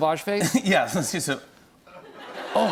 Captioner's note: laughter